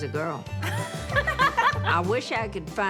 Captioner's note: laughter